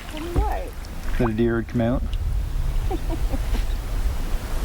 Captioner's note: laughing